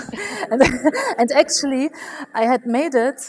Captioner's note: laughs